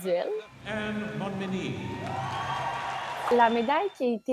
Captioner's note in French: applaudissements